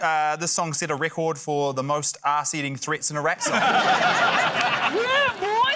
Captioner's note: laughter